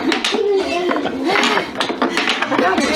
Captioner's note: laughing